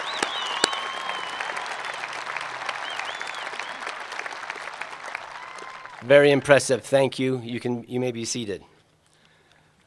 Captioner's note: applause